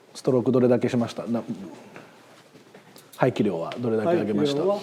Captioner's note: speaking Japanese